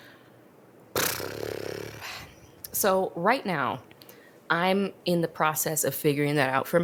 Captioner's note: exhales